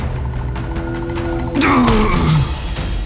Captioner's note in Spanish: quejido